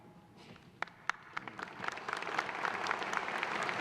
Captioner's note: applause